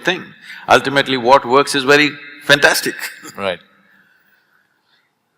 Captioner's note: laughs